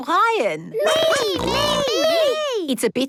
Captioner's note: snorting